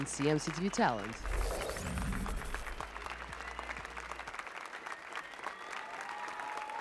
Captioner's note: applause and cheers